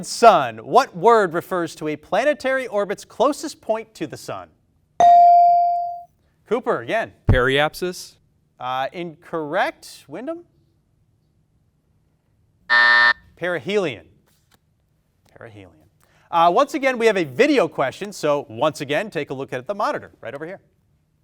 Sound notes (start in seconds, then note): 5.0 bell dings; 12.7 buzzer buzzing